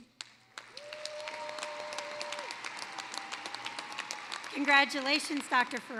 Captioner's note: cheering, applause